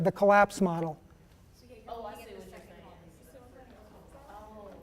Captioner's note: people chattering